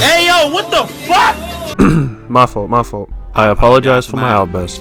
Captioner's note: coughs